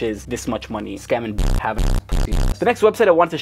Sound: static crackling

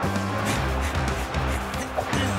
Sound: panting

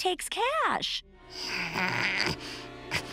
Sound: groaning

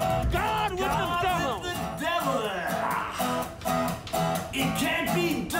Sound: guitar music drowns out speaker; roars

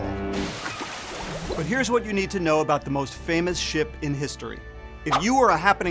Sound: horn

